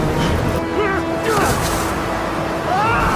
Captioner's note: man moans